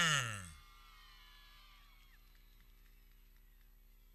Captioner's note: people cheering